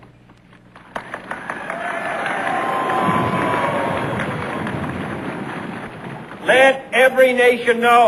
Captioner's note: applause